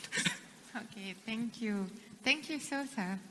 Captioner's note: laughs